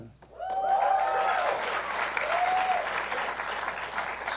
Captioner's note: applause